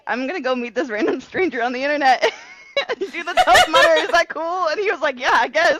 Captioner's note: laughter